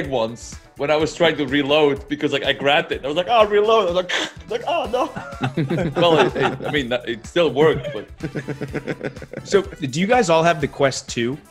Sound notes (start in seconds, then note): 4.1 laugh